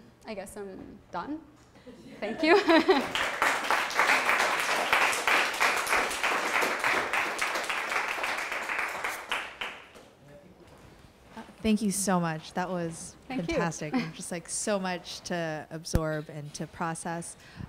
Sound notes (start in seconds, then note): 2.9 applause; 11.7 voiceover